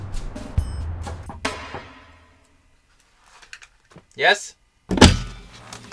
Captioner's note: knocking on the door